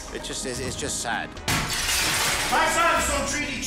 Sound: glass breaking

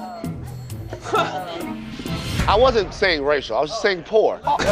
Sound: laughter

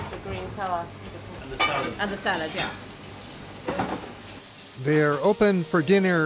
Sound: kitchen noise

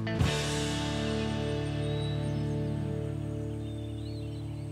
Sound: birds chirping

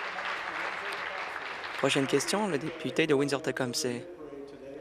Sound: applause

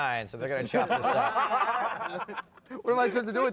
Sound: laughter

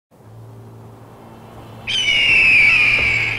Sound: hawk Screech

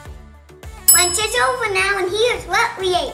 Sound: bell dings

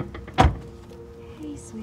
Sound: door slams

